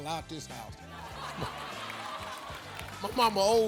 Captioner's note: audience laughing